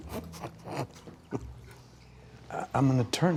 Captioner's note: Dale laughs